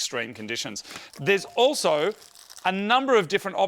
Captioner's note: plastic rustling